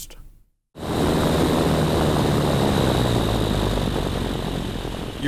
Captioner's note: plane engine roaring